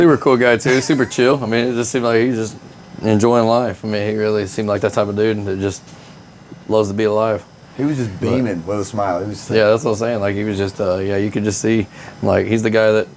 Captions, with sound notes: (laughing) It was all there, I mean. That guy's dude. Super cool guy, too, super chill. I mean, it just seemed like he's just enjoying life. I mean, he really seemed like that type of dude and just loves to be alive. He was just beaming with a smile.